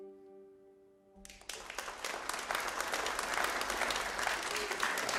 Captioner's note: audience applauding